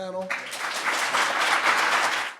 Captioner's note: audience applauds